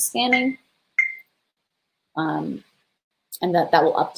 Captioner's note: beeping